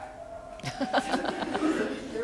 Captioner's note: laughter